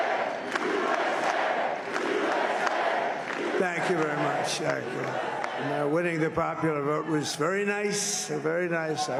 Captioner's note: applause; crowd chanting "usa"